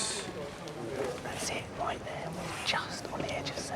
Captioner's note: whispering